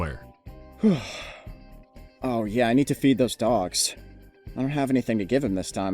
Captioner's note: sigh